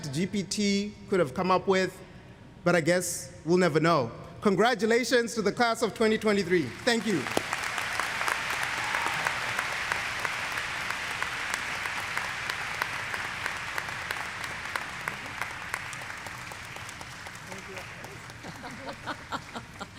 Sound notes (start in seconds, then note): 8.1 applause